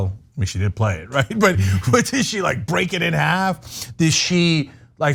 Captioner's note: laugh